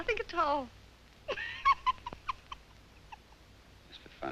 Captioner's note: laughing